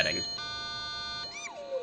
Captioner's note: Excited Beaker noises; modem dial-up tones